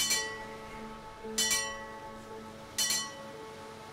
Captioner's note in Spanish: Sonidos de Campana